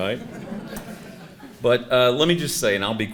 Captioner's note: audience laughing; chuckles